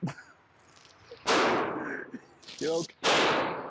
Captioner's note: chuckles; gunshot booms